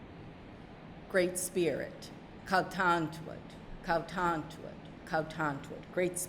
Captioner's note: speaking narragansett